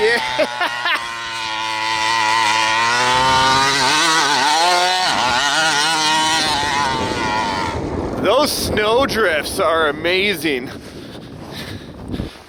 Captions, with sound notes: Yeah! (laughs) (motor revving) Those snow drifts are amazing.